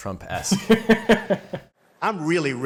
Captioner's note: laughing